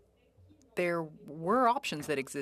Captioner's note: speaking French